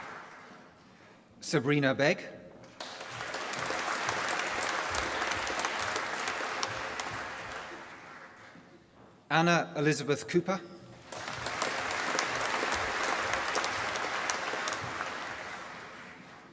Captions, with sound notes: Sabrina Beg. (APPLAUSE) Anna Elizabeth Cooper. (APPLAUSE)